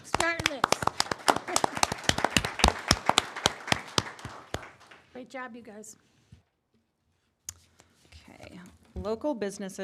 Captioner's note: applause